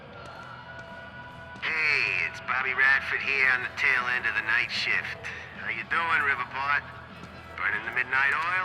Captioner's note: on the radio